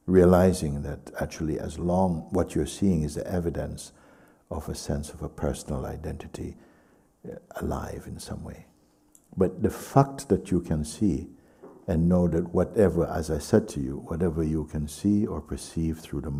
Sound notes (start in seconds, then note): none